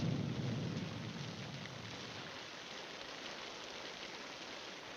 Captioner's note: rain pattering continues